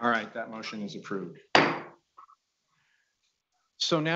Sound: gavel banging

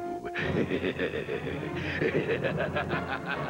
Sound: laughing

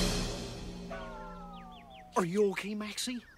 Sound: birds tweeting

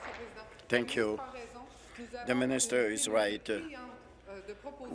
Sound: applause

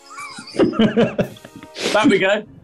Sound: laughing

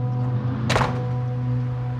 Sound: door shuts

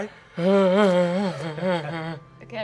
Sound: whimpering

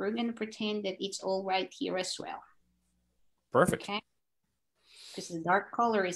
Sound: none

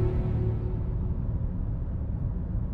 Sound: none

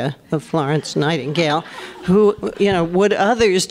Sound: laughter

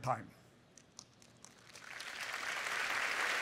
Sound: applause

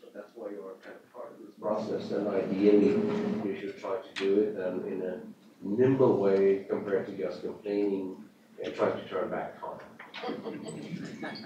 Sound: off mic

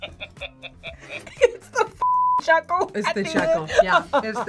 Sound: laughs

